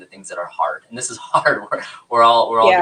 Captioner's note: laughs